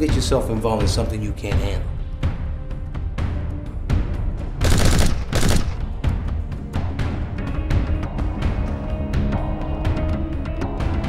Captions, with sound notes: Don't get yourself involved in something you can't handle. (gunfire) (dramatic music)